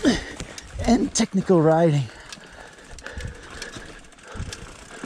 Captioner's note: grunting